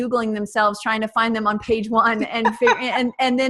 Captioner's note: laughs